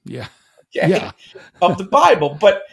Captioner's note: chuckles